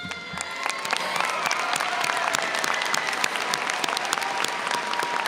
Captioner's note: audience cheers and applauds